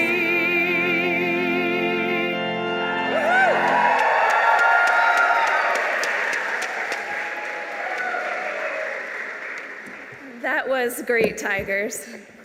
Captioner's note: applause